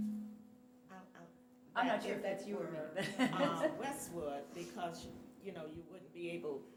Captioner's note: microphone feedback